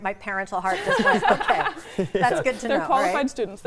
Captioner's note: laughing